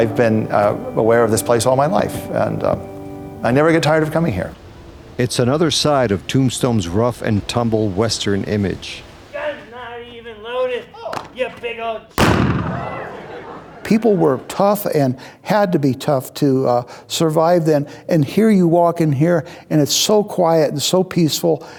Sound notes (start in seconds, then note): 12.2 gun shot